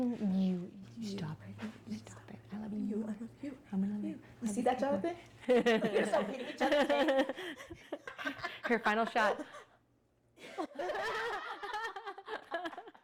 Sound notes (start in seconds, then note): 6.0 laughing; 10.9 laughing